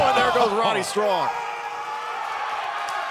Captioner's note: crowd chatter